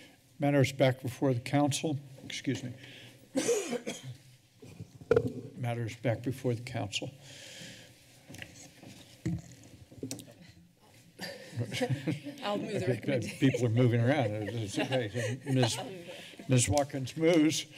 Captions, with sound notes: Matter is back before the council, excuse me. [coughs] Matter is back before the council. [laughter] - I'll move. the recommenda- - I think people are moving around. It is great. Ms-, Ms. Watkins moves.